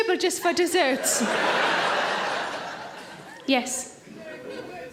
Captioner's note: audience laughing